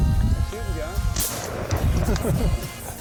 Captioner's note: gun fires